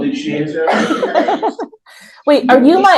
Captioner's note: laughs